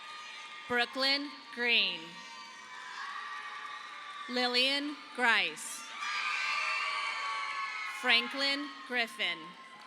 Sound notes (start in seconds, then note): 2.5 audience applauding